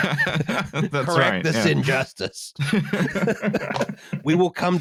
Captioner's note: laughs; laughter